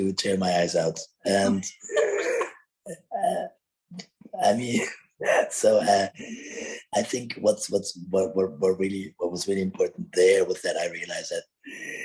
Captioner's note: all laughing